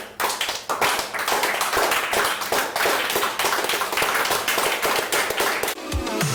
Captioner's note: applause